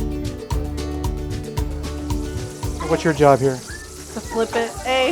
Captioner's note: grease sizzle